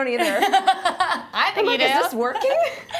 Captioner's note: laughing